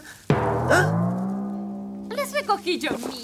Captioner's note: gasping